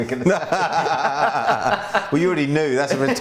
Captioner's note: laughs